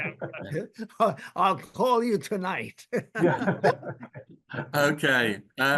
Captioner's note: chuckles